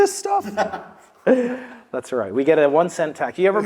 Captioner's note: laugh